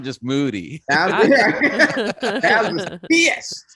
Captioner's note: all laughing